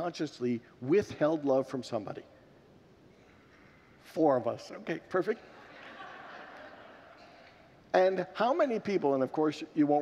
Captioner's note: congregants laugh